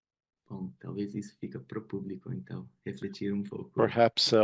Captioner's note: speaking in Portuguese